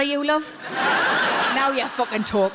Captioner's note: audience laughs